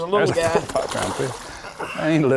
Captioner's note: splash